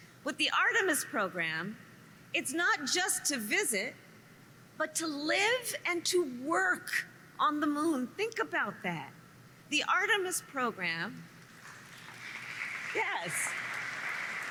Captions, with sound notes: With the Artemis Program, it's not just to visit but to live and to work on the Moon. Think about that. The Artemis Program -- (applause) -- yes.